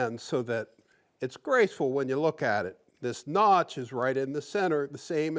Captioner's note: none